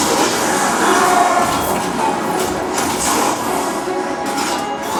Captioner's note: metal clanking; weapons blasting